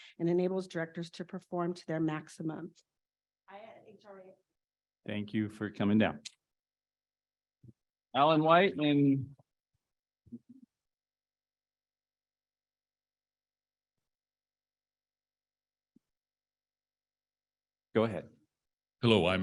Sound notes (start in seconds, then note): 4.5 muted